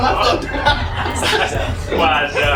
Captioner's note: laughs